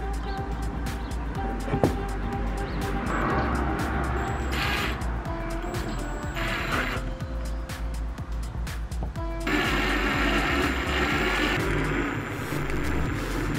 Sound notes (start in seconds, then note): 6.2 drill; 9.4 slow drill